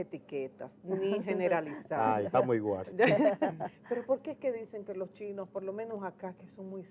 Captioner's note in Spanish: risas